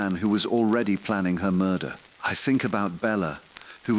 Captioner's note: exhale